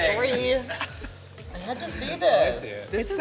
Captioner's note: chuckling